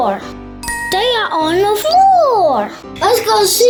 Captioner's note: magical ting